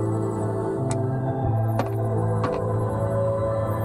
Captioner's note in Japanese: 足音：コツコツ･･･